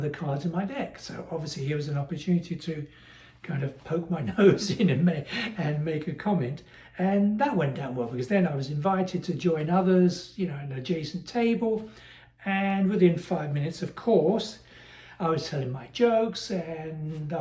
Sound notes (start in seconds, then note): 4.3 laugh